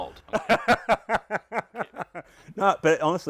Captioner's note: laughs hysterically